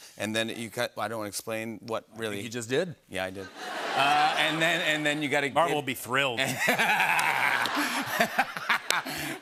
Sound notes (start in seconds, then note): 3.4 laughter; 6.4 laughter and applause